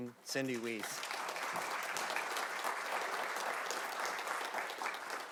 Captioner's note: audience clapping